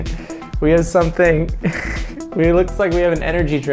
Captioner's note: chuckles